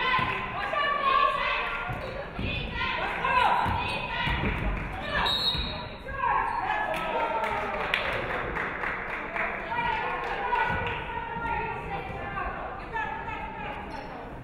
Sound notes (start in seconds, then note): 5.2 referee whistles